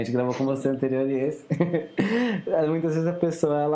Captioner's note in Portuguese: risos